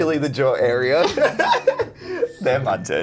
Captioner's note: laughing